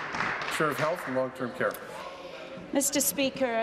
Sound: applause

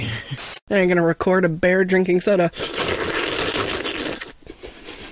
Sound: exuberant slurping noises; giggling

